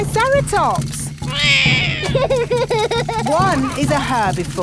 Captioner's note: laughs; roars